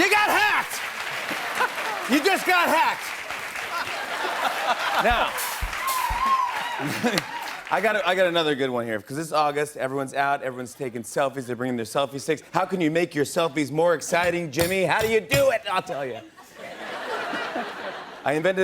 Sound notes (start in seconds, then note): 3.6 laughter; 16.1 laughter